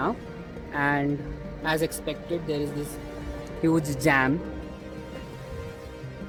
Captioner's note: traffic